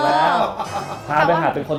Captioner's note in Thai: หัวเราะ